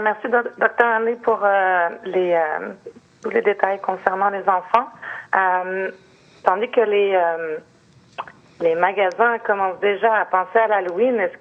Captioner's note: speaking French